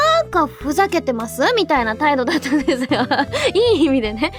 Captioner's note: laughs